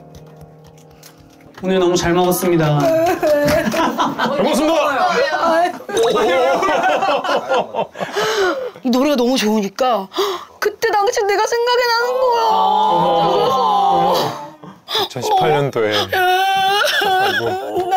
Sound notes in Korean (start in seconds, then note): 2.7 오열 중